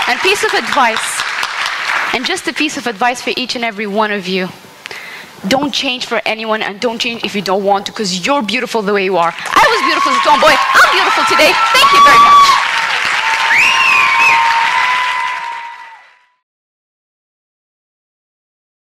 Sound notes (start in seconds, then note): 9.5 applause; 13.9 applause; 13.9 cheers